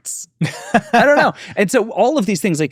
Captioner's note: laughs